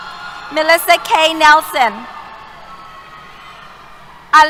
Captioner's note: cheers